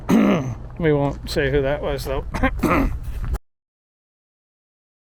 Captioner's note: clears throat; clears throat